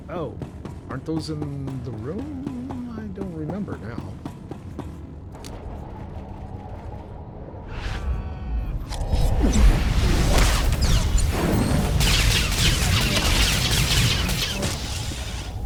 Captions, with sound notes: Oh, aren't those in the room? I don't remember now. [explosion]